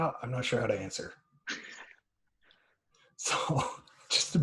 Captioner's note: laughter